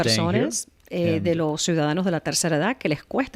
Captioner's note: Hablando ingl\s